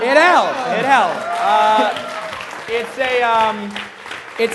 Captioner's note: applause